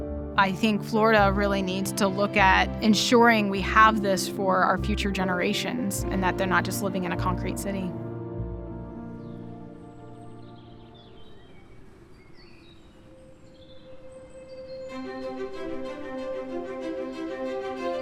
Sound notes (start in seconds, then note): 9.0 forest nature sounds play; 14.6 peppy, cheerful music plays